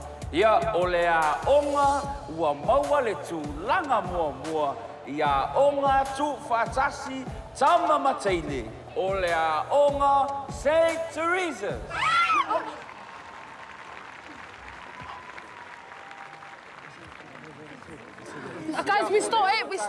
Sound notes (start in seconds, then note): 11.8 shrieks; 12.2 applause